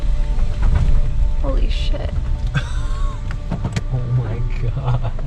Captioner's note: chuckling